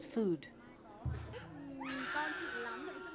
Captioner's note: child crying